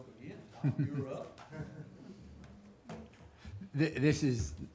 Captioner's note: chuckling